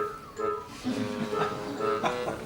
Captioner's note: all laugh